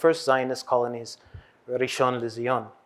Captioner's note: hebrew